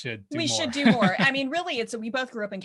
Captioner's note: laughs